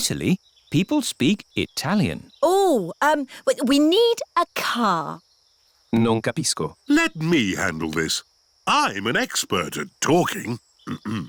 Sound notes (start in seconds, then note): 6.1 replies in italian